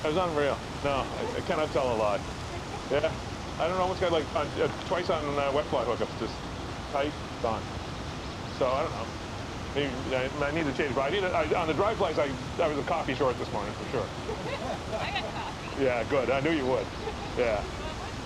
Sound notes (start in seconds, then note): 14.2 laughter